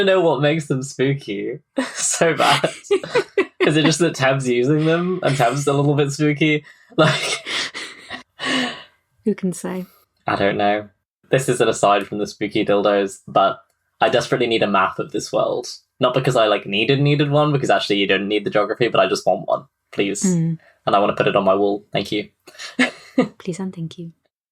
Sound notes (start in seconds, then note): 4.6 laughs; 9.8 laughing